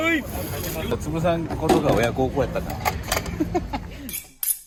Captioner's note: laugh